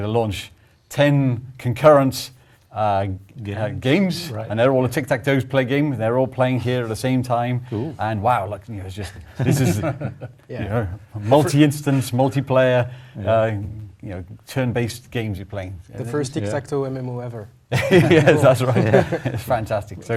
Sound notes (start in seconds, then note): 17.7 laugh